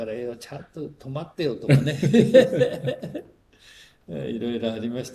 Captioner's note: laughs